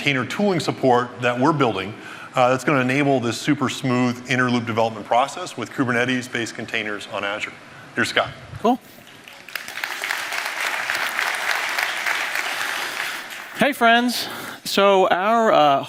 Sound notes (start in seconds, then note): 8.9 applause